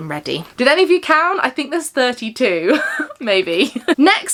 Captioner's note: laughs